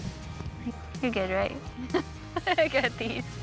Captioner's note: laughter